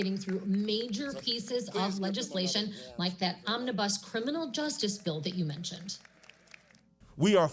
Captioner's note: laughter